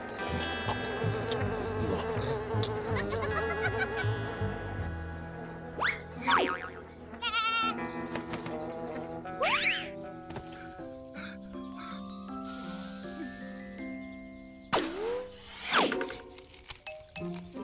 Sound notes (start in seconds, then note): 0.3 buzzing; 3.0 giggling; 11.1 gasping